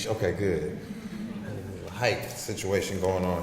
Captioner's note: audience laughs